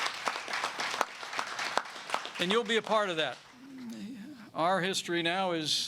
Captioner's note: applause